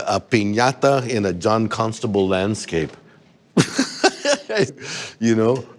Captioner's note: laughs